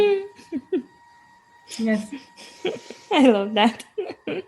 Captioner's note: laughs